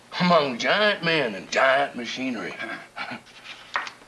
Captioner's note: chuckles